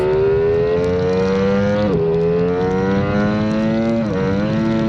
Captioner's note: engine revving